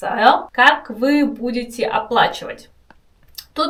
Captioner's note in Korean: 러시아어